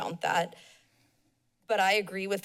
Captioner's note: pause